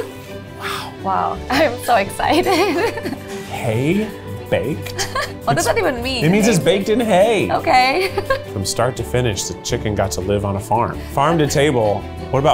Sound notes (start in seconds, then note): 4.8 laughs